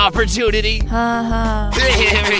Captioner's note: sarcastically